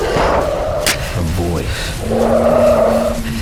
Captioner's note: GUNSHOTS and ELI SCREAMING; flare sizzling